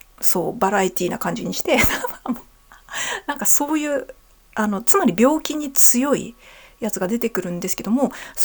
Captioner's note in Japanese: 笑い